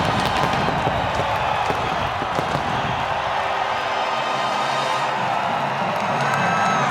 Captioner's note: crowd cheering; dramatic music